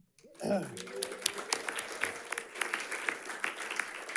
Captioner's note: audience clapping